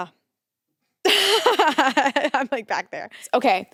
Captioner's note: laughs